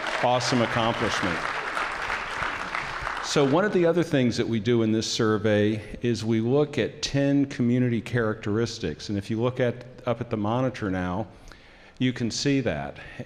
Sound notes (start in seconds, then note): 0.0 applause